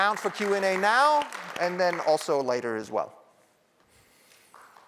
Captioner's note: applause